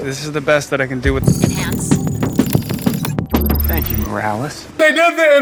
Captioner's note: computer chirping